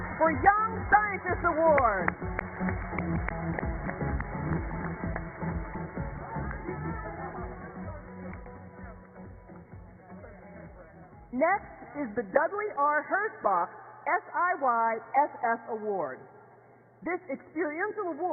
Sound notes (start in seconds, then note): 4.0 cheers and applause